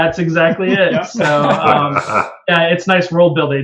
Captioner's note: laughter